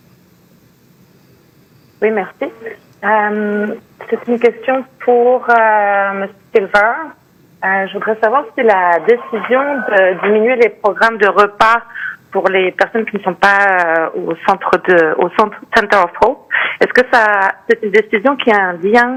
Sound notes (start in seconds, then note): 6.6 speaking French